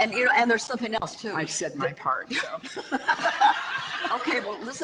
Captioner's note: audience laughter